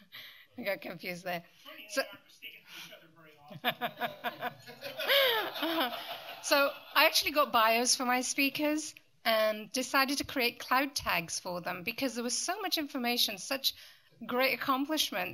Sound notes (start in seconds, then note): 3.4 laughter